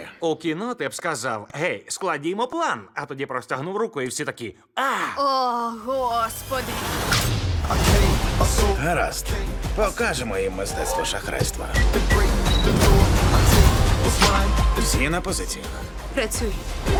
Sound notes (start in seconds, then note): 6.4 music intensifies; 11.5 engines rev; 11.7 device beeps